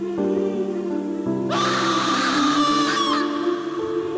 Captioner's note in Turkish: Bağırma sesi